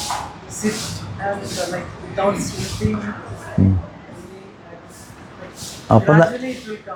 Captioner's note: snorts